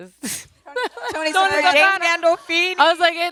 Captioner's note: laughs